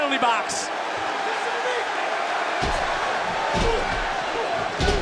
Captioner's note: crowd cheers